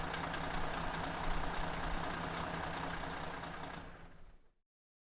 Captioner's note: vehicle engine roaring